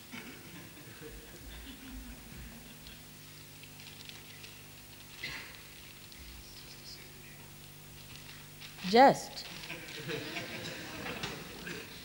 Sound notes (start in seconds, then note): 9.5 laughter